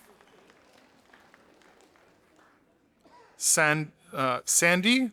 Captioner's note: audience applauding